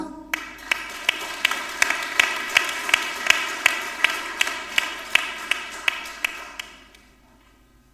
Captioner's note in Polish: oklaski